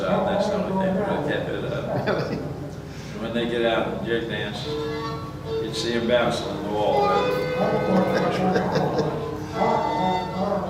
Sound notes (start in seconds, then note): 1.9 chuckles; 7.7 laughs